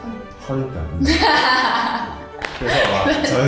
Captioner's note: laughs